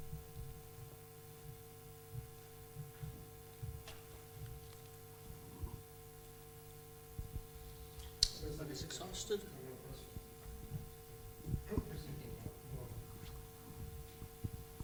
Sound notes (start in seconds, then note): 7.9 background Conversation